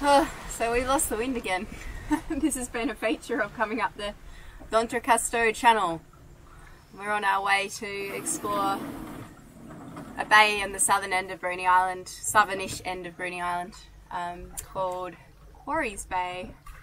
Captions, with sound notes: Oh, so we've lost the wind again. (chuckles) This has been a feature of coming up the D'Entrecasteaux Channel. And we're on our way to explore a bay on the southern end of Bruny Island, southern-ish end of Bruny Island, called Quarries Bay.